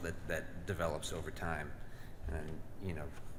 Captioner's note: none